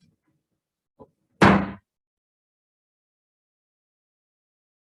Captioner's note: gavel bangs